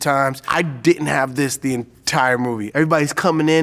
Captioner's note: none